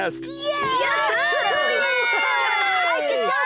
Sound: cheering

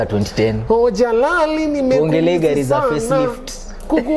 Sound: Mimics Willy Paul's Ladish Voice

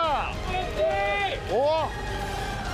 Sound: cheering squad

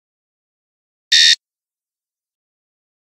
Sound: sound of beep

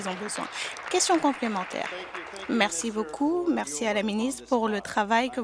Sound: applause

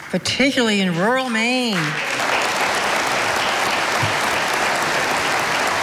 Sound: audience applauding

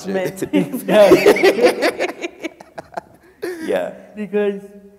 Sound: people laughing

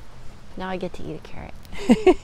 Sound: chuckle

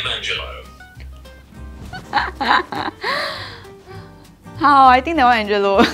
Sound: laughs

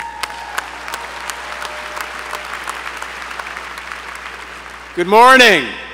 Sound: applause

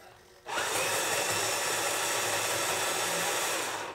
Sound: RC truck whirring

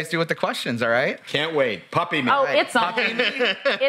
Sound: laughs

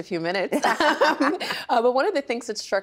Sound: both laughing

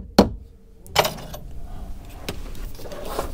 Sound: hammering

